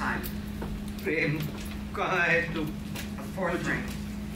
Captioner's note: speaks in foreign language